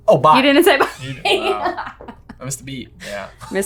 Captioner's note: laughing